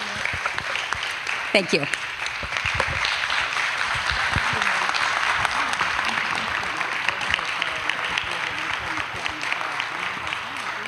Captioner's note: applause